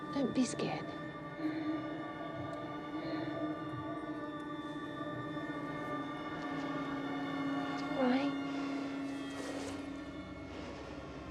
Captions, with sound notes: Don't be scared. (Mya panting) (eerie music) It's all right. (eerie music)